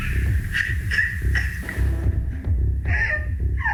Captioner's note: sobs